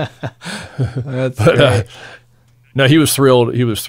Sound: laughing

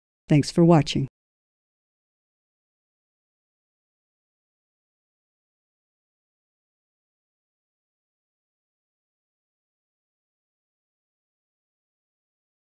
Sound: silence

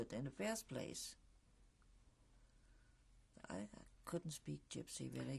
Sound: pauses for 3 seconds

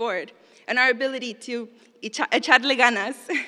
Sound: spanish

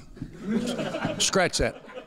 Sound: laughter

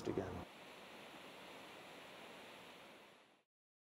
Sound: water flows

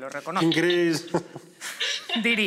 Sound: laughter

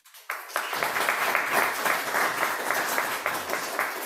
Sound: applause

